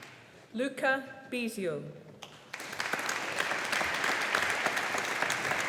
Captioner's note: audience applauding